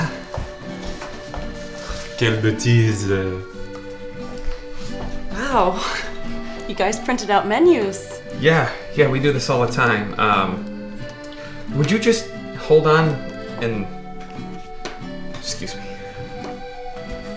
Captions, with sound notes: [Speaking French] Wow. You guys printed out menus. Yeah. Yeah we do this all the time. Umm. Would you just hold on. Excuse me.